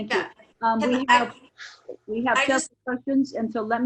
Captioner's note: members chattering